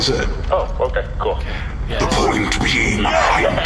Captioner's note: rasping